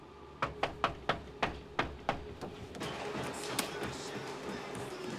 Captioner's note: knocks